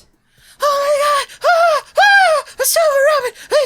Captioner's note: cry